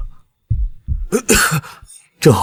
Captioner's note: cough